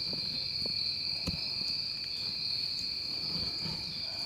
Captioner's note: insects chirping